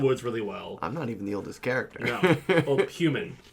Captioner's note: chuckles